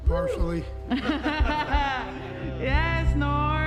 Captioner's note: laughs